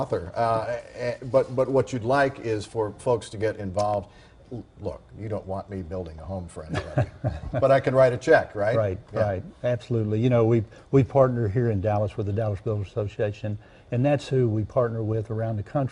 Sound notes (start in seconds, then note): 4.3 laugh